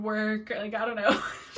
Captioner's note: laughs